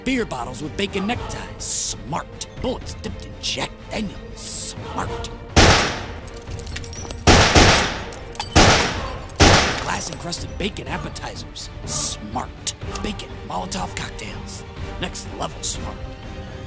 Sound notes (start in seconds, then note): 5.4 gun firing; 5.6 glass breaking